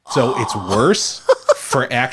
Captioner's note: laughs